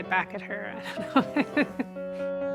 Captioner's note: chuckles